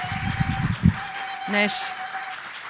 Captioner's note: speaking Cheyenne